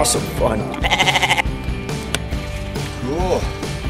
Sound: sheep bleats

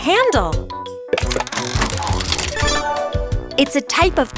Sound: tile clicking; bells chiming

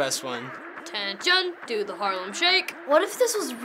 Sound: as drill sergeant

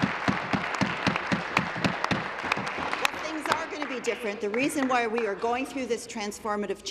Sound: applause

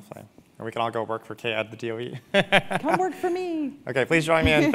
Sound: laugh

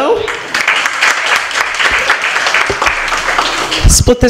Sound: applause

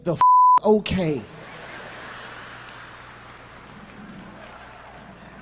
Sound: beep; audience laughs

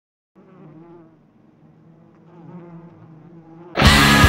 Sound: flies buzzing; driving metal music

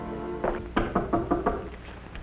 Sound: knock at door

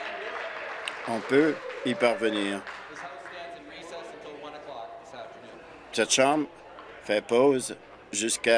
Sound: applause

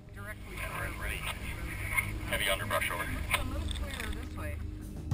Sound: voiceover

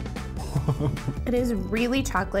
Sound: laughs

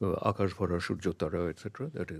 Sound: speaks in a foreign language

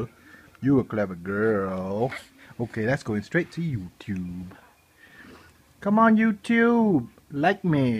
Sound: deep voice

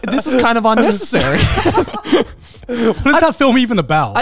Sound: everyone laughs

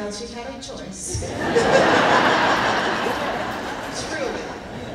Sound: laughing

